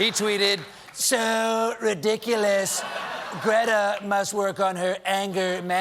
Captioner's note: laughter